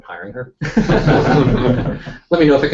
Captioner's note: laughter